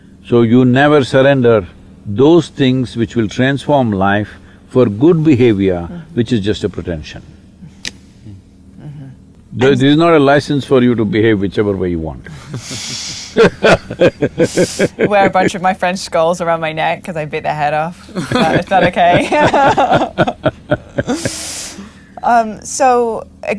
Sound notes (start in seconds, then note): 12.3 laughter; 18.1 laughter